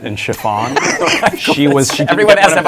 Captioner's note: laughter